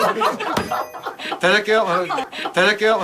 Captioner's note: everyone burst into laughter